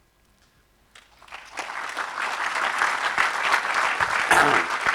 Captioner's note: audience clapping